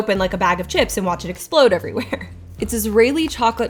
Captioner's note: laughs